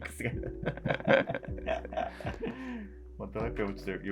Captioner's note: laughing